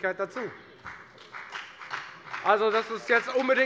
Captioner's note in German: Beifall bei der FDP